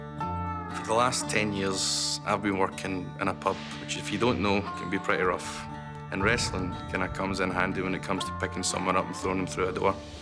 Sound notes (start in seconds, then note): none